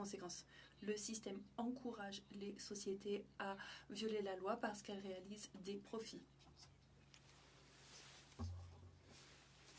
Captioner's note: speaking French